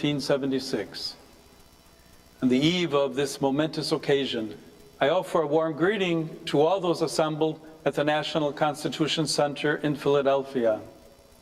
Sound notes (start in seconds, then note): none